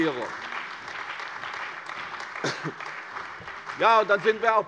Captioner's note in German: Beifall bei der CDU und dem BÜNDNIS 90/DIE GRÜNEN